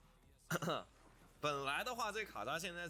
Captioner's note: cough cough